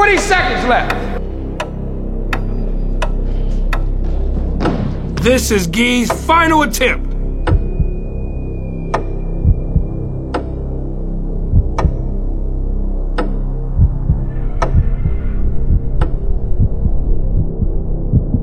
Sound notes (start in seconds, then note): 1.8 tense music; 3.2 clock ticking